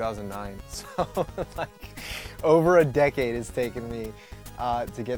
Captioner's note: laughs